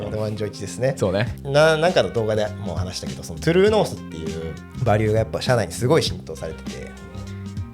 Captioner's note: laughs